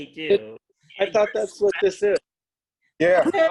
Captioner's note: laughter